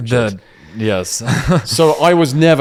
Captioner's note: laughs